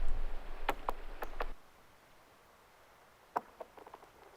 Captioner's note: rocks thumping